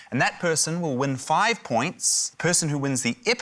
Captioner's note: none